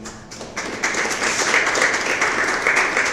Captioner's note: applause